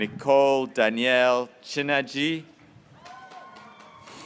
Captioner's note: graduates cheering